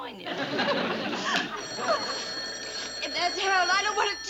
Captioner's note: phone rings